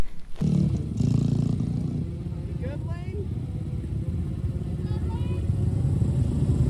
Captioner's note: motorcycles